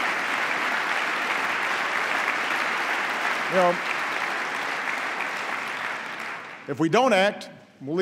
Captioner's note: applause